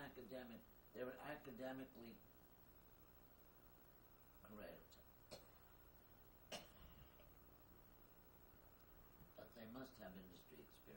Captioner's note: coughing